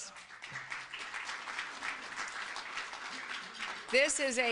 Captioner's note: applause